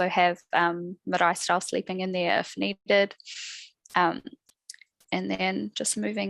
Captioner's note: non-english speech